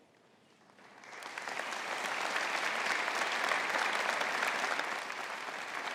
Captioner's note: audience applauding